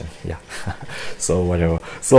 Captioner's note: laughs